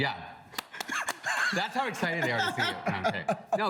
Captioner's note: laughs